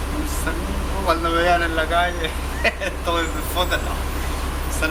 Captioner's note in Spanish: risas